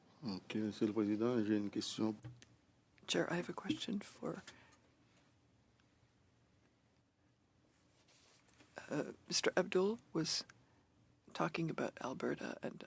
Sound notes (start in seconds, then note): 10.9 speaking French